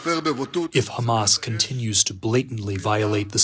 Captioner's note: through translator